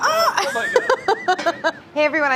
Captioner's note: laughs